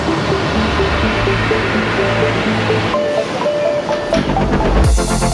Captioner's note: doors beeping